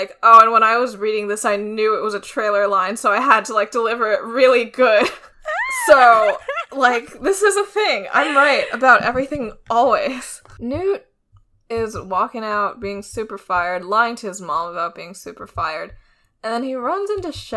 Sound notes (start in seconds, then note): 5.3 laughs